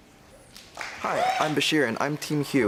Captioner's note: applause